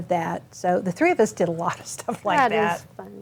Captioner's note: chuckles